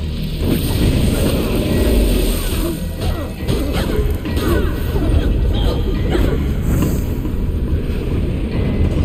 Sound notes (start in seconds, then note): 0.2 tense music; 2.7 people grunting